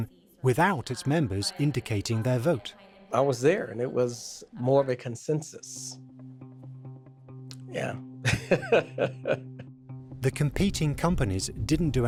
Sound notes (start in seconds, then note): 8.2 laughs